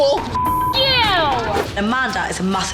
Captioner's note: beep